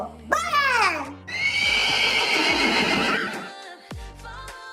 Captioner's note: neighing sounds